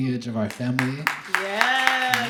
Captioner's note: audience clapping